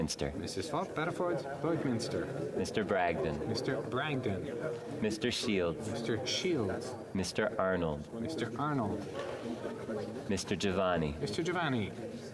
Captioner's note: calling of recorded vote